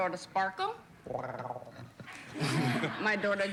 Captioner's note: purrs